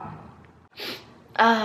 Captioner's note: sniff